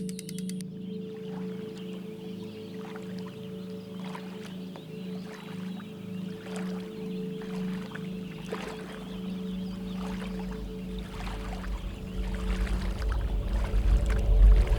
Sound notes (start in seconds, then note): 1.8 water splashing; 12.1 tense music